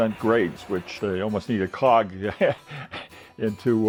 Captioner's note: laughs